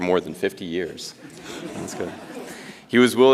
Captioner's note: audience chuckles